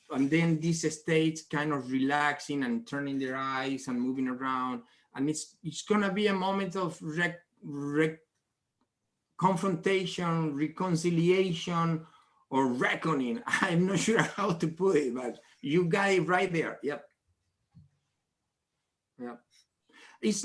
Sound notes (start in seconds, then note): 13.4 laughs